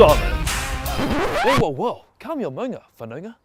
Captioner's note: record scratch